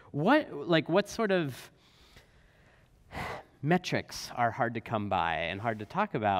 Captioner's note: sighs